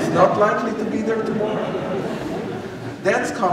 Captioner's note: laughter